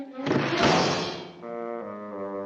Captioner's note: window slams; somber playful music